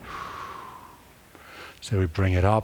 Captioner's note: breathing